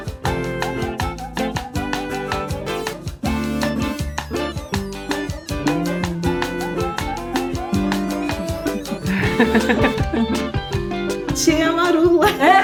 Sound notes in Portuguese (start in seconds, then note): 8.9 risos